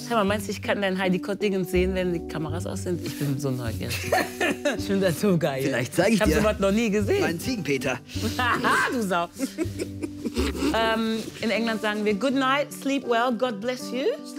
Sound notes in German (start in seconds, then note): 4.0 Er lacht; 8.3 lacht